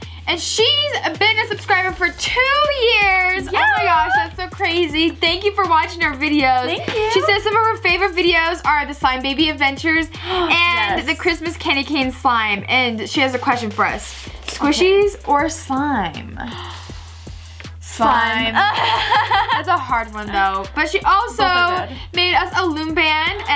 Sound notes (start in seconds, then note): 18.5 laughs